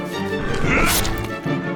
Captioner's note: grunts